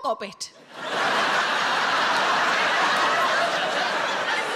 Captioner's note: audience laughing